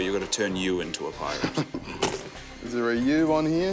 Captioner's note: laughs